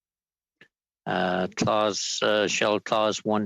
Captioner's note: speaking French